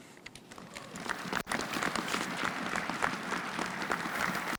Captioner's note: audience applauds